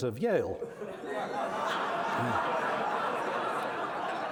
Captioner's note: laughter